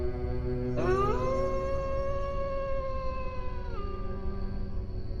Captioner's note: werewolf howling